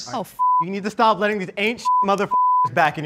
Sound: beep

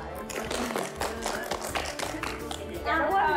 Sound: applause

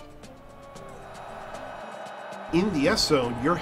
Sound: crowd roaring

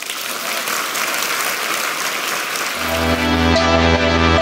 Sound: audience applauding; lively music

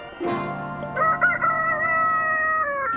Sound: rooster crowing

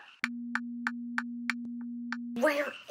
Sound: clock ticking

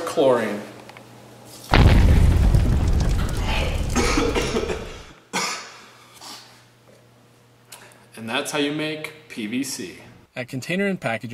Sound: cough

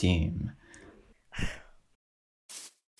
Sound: sigh

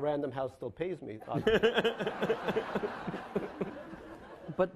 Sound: laughing

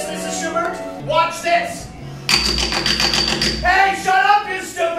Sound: tinny banging

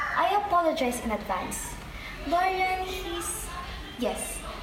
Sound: none

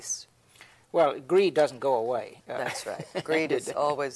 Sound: laughs

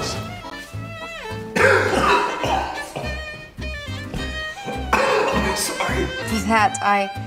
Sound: Pedro is coughing

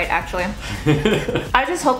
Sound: laughing

